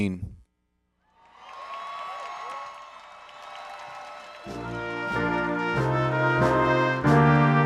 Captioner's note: applause